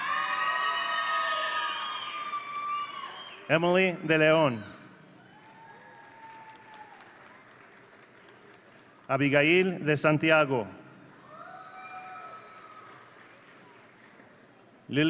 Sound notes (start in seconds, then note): 0.0 audience cheering; 11.2 audience cheering